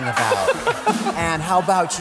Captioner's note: laughter